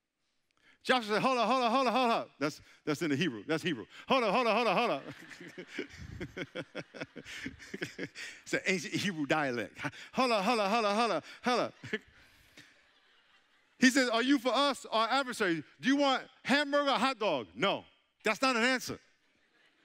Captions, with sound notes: Joshua said, "Hold up, hold up, hold up." That's in the Hebrew, that's Hebrew. "Hold up, hold up, hold up." (all laughing) It's an ancient Hebrew dialect. "Hold up, hold up, hold up" (chuckling). "He said, "Are you for us or our adversaries?" Do you want hamburger or hot dog? No, that's not an answer.